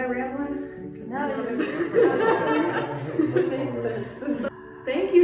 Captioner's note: laughs